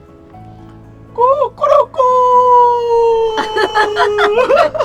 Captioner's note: mimicking chicken sound